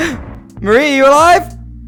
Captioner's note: the gunfire continues